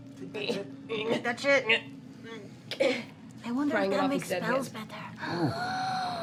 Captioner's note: gasps